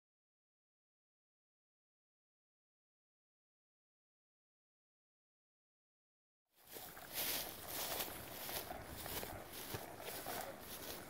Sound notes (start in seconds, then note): 6.6 footsteps